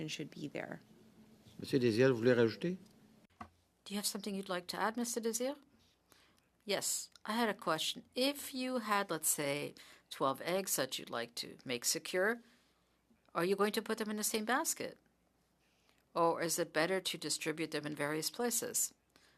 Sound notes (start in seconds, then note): 5.9 speaking French